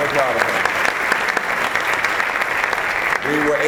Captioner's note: applause